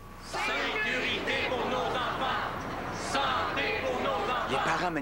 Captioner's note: Tous scandent